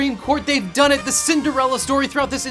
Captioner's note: squeaks